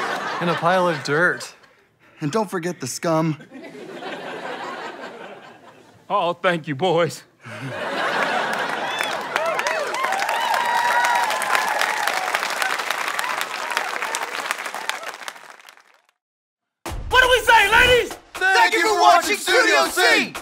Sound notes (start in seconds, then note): 3.2 audience laughter; 7.6 audience cheering